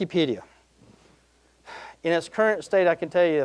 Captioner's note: sighing